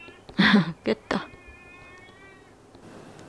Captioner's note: crying